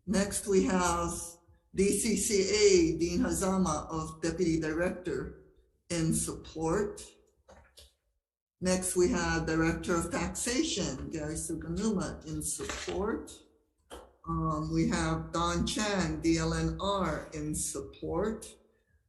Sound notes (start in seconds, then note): none